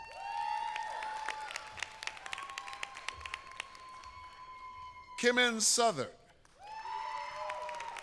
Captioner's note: applause